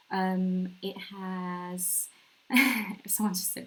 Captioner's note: laughs